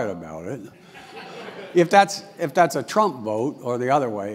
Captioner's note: laugh